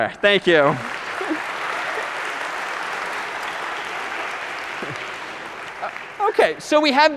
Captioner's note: applause